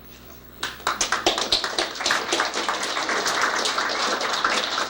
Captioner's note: applause